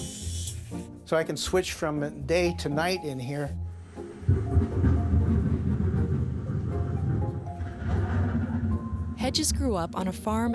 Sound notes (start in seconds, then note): 0.2 electricity humming; 8.1 thunder rumbling